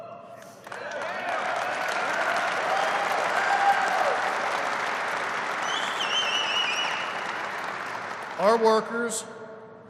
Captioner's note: applause